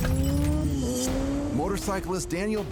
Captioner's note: motorcycle humming